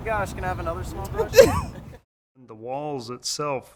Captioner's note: laughs